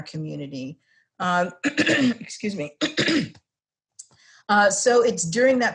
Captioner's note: cough